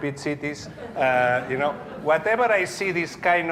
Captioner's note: audience laughing